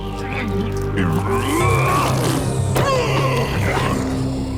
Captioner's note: grunting